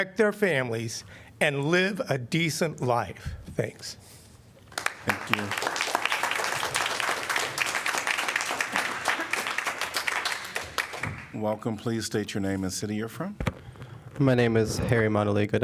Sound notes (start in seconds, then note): 4.7 applause